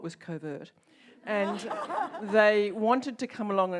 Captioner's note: audience laughs